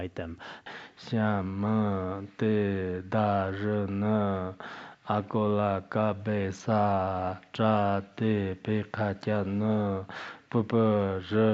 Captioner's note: giving oral transmission in Tibetan